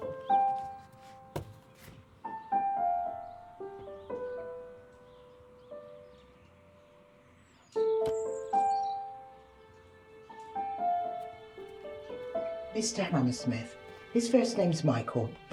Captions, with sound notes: (gentle orchestral music) (birds chirping) - Mr. Hammersmith. His first name's Michael,